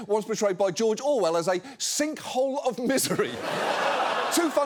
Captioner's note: audience laughs